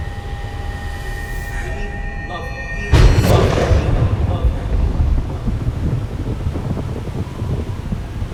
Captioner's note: echoing